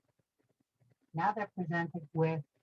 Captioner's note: recorded voice